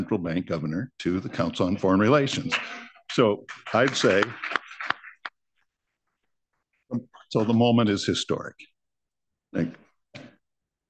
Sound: applause

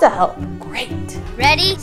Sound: whispering

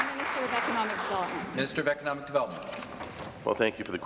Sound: applause

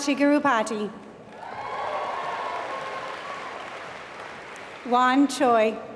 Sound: applause

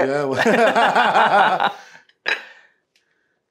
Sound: both laughing

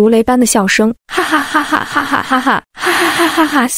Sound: ha ha ha ha ha ha ha ha

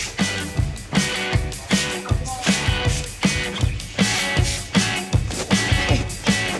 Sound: bottle sprays

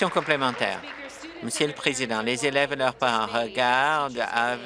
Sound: applause

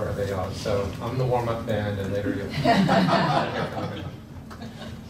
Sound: laughter

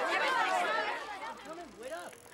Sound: arguing

